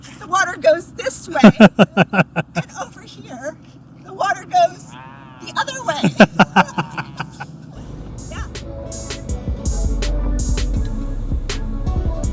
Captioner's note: laughter